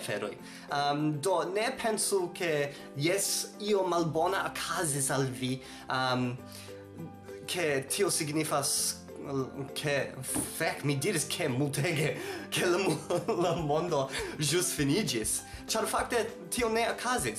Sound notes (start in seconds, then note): 12.6 laughs